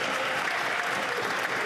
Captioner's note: some Applause